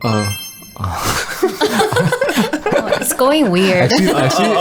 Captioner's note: laughter